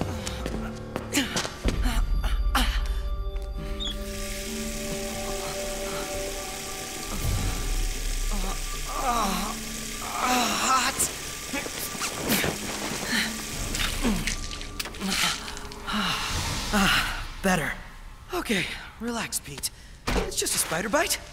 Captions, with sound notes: [GROANS] [WATER RUNNING] [GROANS] Hot. Better. OK. Relax, Pete. It's just a spider bite.